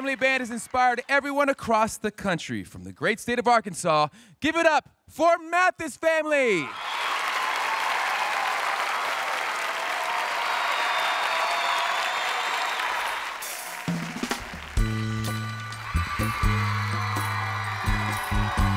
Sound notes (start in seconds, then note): 6.7 audience cheering